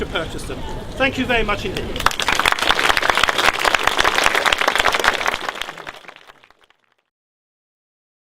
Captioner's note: applause